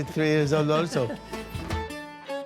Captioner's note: laughs softly; upbeat instrumental music